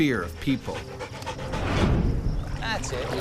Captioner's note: panting; voiceover